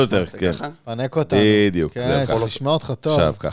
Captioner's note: cough